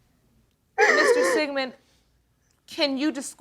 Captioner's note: sniffles